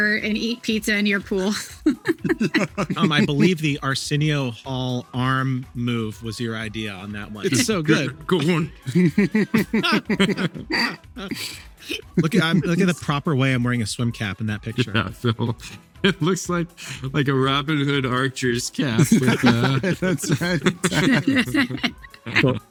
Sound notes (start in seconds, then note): 1.3 laughing; 9.1 group laughing; 18.9 group laughing